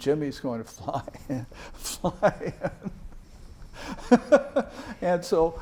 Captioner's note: laughs